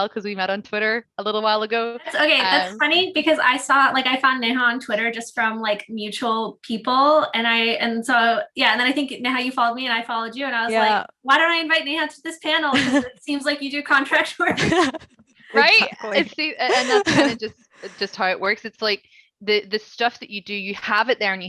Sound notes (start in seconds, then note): 14.4 laughing